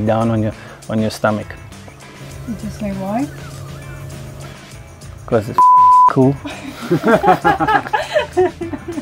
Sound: laughter

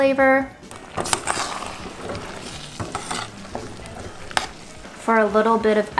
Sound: food sizzling; spoon scraping

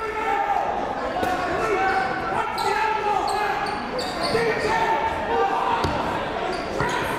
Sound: coaches yelling; crowd talking

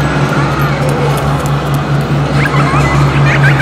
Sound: running footsteps; child giggling eerily

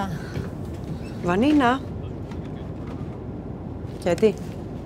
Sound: flight attendant and Vanina speaking foreign language; muffled speaker on phone; Vanina speaking foreign language

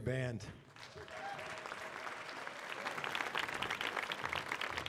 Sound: audience applauds

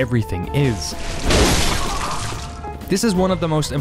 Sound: blood splattering

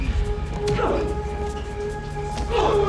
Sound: punch thuds; grunts

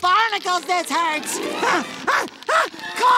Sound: grunting

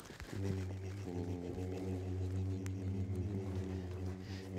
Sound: both chanting

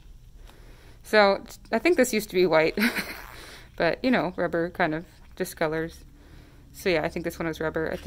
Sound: chuckles

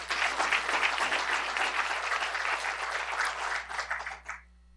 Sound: applause

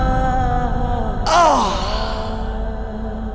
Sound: groans

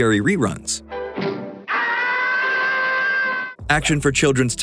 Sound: screaming

